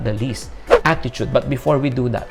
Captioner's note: swoosh